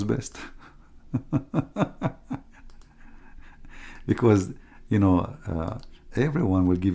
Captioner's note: Ketawa